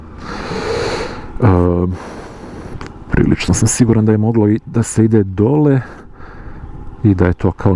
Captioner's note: snort